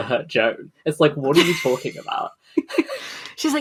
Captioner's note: laughs